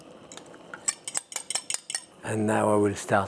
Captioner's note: fork clinking